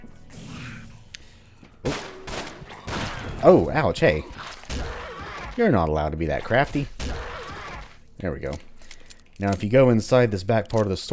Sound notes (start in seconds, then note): 4.3 thwack